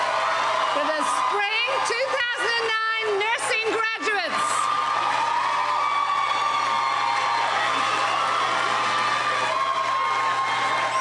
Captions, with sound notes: for the Spring 2009 nursing graduates. (cheering and applauding)